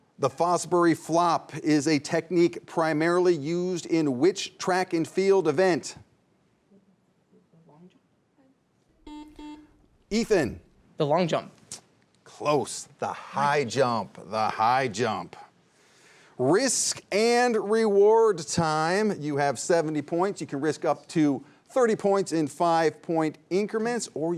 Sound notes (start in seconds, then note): 9.0 buzzer sounding